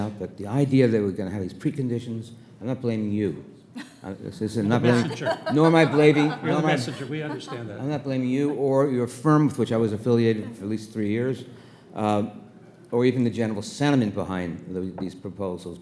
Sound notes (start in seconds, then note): 4.6 laughing